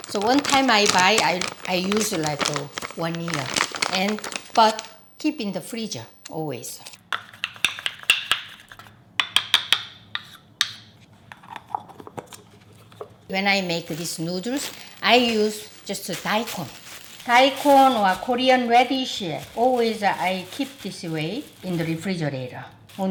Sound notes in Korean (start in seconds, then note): 7.5 숟가락 부딪치는소리